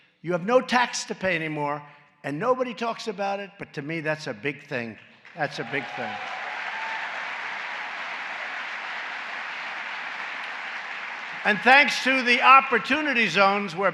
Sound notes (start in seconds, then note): 5.2 applause